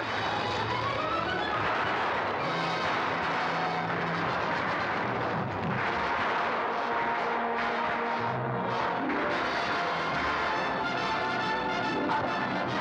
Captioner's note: dramatic music; gunfire